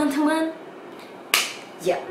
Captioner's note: clap